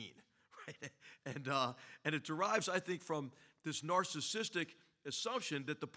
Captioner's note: laugh